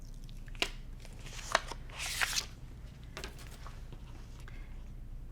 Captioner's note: paper rustles